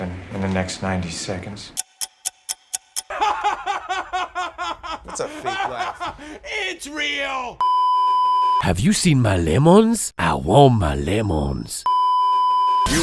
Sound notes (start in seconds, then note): 3.0 real, Authentic & Hysterical laughter; 7.6 beeeeeeeeeeeep; 11.9 beeeeeeeeeeeep